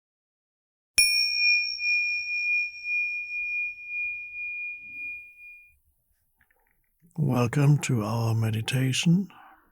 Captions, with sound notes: (dinging) - Welcome to our meditation.